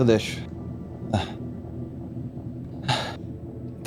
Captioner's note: sighs